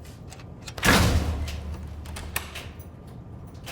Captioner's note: locks clicking